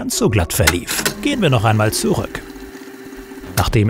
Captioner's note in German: Zurückspulgeräusche